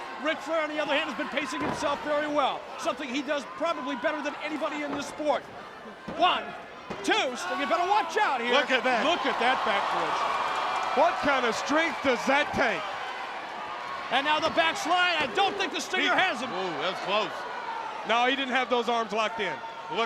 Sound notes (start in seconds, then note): 6.1 countdown thudding